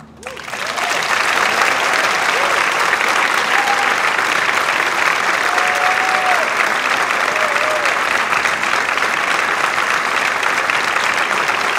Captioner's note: applause